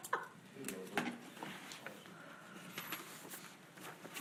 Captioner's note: board chattering